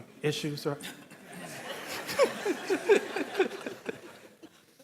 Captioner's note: audience laughing